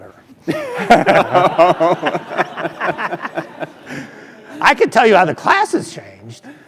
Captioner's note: laugh